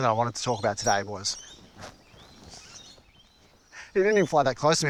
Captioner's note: bird flies